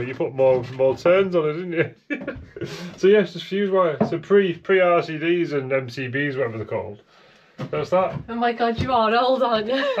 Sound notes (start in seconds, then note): 2.0 laughs